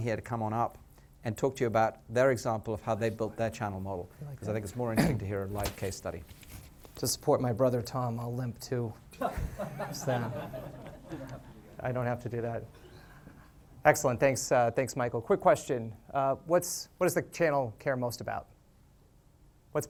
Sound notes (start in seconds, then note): 9.1 laughter